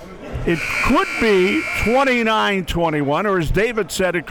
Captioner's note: buzzer blares